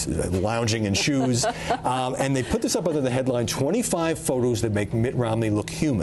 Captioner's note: laughter